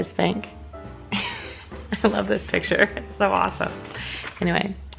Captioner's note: laughs